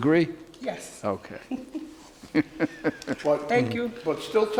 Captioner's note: laughing